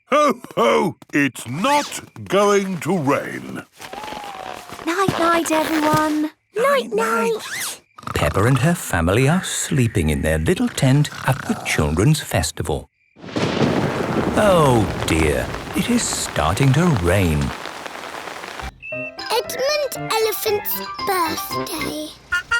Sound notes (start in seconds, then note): 7.6 snores; 13.2 thunder rumbling; 18.0 downpouring